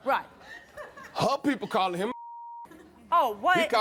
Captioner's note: beep